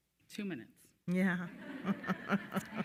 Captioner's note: attendees laughing; chuckles